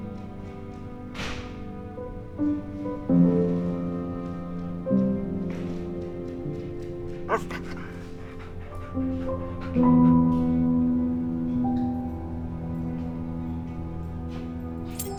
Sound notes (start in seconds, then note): 9.7 Lana panting; 11.7 soft orchestral music; 14.8 keys jangling